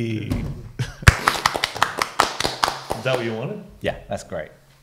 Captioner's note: applause